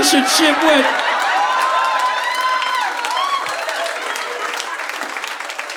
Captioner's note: audience applauding